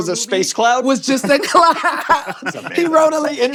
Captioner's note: laughing